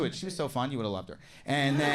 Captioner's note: audience laughs